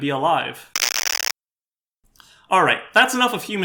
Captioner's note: static